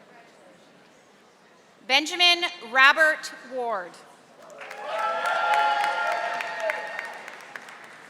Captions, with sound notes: Benjamin Robert Ward. (audience applauding)